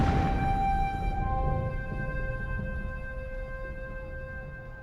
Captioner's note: gun firing